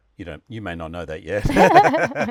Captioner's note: both laughing